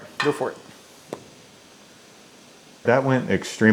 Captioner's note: torch whooshing